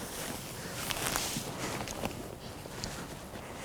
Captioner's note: rustling